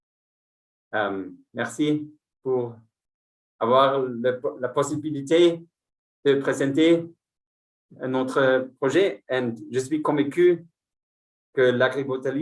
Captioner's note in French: Speaking in French